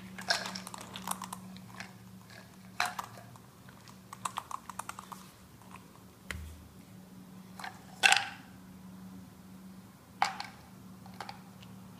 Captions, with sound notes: *munching papaya tablet* Finally! Mission accomplished.